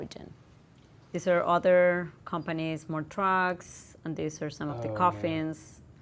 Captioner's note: none